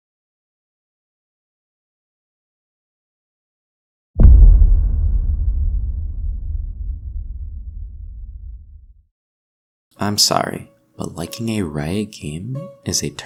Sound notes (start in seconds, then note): 4.2 boooom